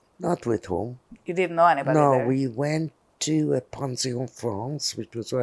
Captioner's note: non-english